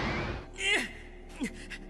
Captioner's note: Mike Grunting